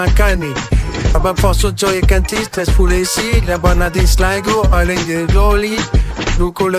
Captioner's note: I shudder